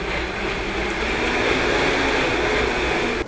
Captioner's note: blender sounds